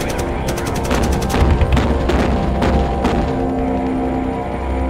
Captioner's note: canon firing